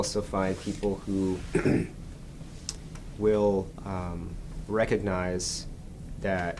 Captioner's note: clears his throat